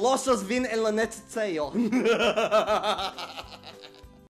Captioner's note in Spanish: risas aterradoras